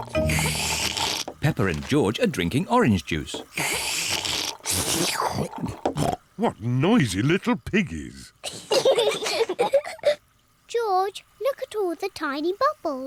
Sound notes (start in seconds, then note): 0.0 both slurping; 3.5 both slurping; 8.7 both laugh